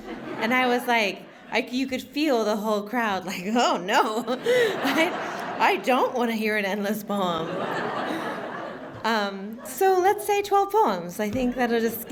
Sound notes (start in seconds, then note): 4.4 laughter